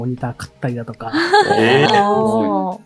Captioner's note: chuckles